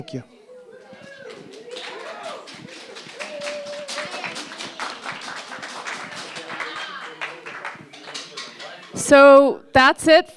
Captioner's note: applause